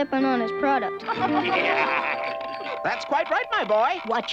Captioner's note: laughing